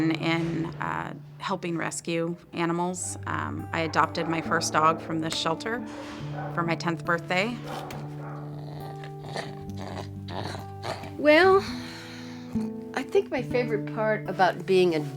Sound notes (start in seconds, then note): 7.5 dog grumbling; 11.8 sighs